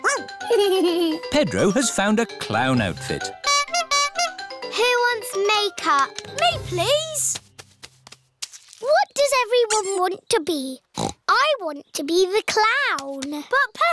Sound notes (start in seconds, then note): 0.4 giggles; 3.4 toots horn; 10.9 snorts